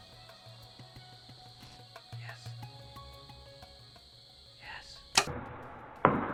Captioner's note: whispering